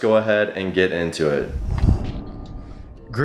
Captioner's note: air whooshing